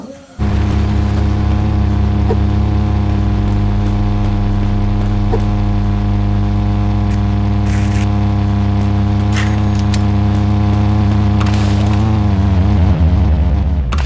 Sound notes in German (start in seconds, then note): 0.3 Motorendröhnen; 2.2 Hupendes Geräusch beim Schlagen; 7.4 Knistern, Klingeln; 11.0 Peitschendes Geräusch; 12.3 Motorendröhnen wird leiser